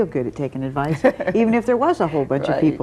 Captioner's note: laughing